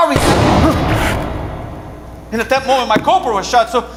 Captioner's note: gunshot booms